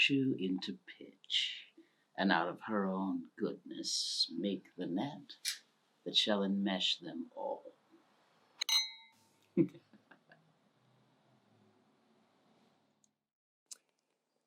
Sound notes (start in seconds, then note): 8.6 Glasses clink, Iachimo chuckles